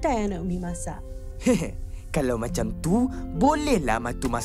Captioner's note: weak laugh; chuckles